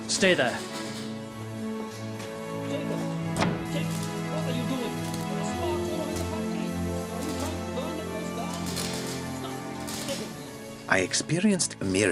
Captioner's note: <i> man scolding in background